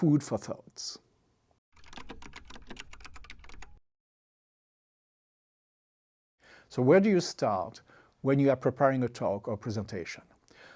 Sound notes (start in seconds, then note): 1.7 typing sound